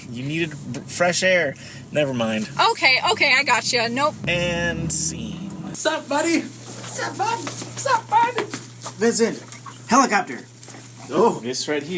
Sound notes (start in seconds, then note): 6.7 puppy voice